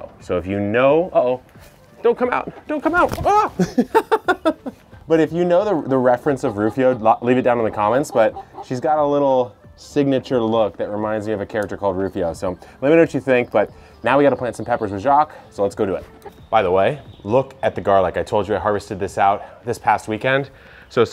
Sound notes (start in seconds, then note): 3.1 laughs